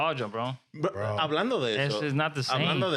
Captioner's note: speaking In Foreign Language